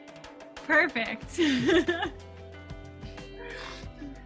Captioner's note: laughing